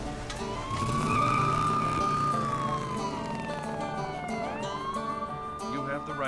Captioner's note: closes truck door; police sirens, tires screech